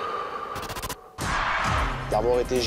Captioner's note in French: signal de départ